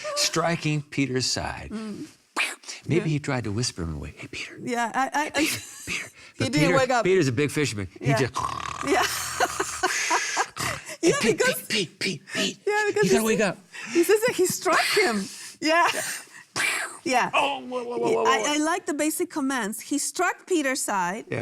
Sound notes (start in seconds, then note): 8.3 snores; 8.8 laughing